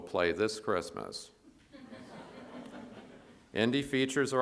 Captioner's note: audience laughs